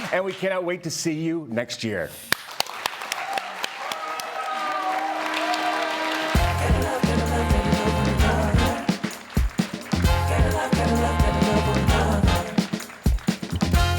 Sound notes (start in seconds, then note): 2.3 audience clapping; 5.7 upbeat music